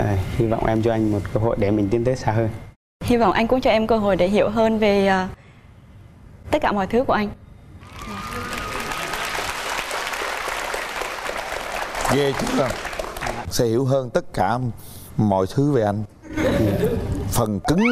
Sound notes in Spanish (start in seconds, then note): 7.8 vítores; 16.2 risas